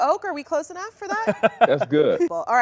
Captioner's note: laughs